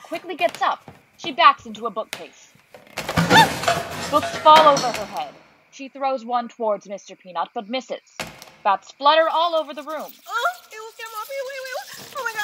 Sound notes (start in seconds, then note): 2.5 footsteps, and books and bookcase falling to the ground; 8.2 book falling to the ground; 9.2 bats squealing